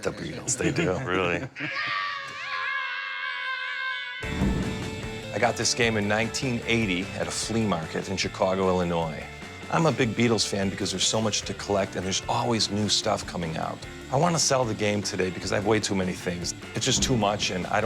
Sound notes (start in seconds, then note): 0.4 guys laughing; 1.6 children yelling